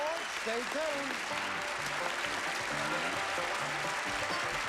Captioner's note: applause